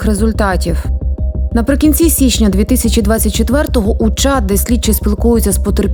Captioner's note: Ukrainian